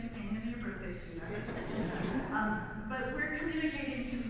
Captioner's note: audience laughs